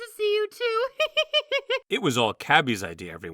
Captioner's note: clover laughs